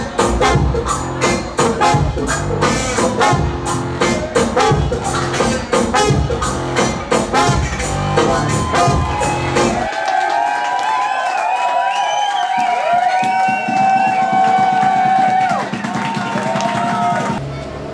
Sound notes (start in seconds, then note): 9.3 music stops, cheering, applause